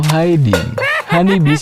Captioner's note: laugh